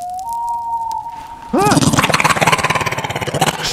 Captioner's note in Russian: крик монстра